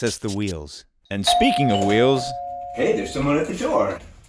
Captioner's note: doorbell rings